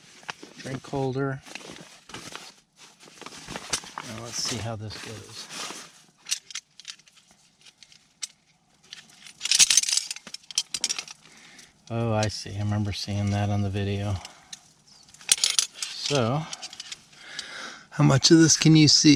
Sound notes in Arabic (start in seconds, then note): 9.2 خشخشة